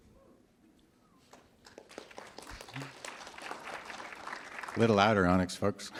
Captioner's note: applause